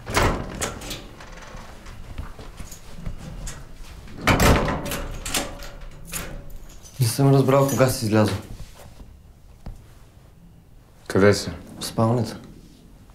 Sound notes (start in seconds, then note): 0.0 door creaks open; 6.6 speaking in foreign language